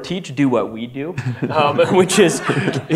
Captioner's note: audience laughter